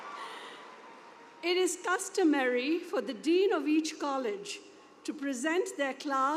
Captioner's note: cheers and applause